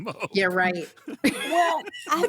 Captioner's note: laughing; laughs